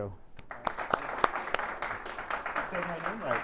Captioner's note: audience applauding